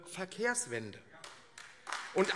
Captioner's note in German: Beifall AfD